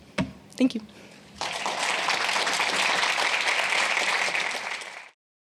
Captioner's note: applause